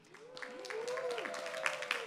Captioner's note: applause